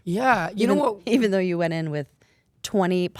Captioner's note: laughing